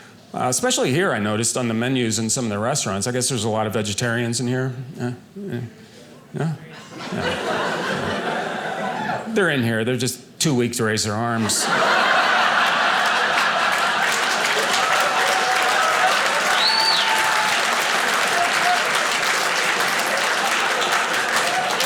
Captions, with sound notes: especially here, I noticed, on the menus in some of the restaurants. I guess there's a lot of vegetarians in here, yeah, yeah? Yeah? Yeah. (audience laughing) They're in here, they're just too weak to raise their arms (audience laughing) (audience applauding)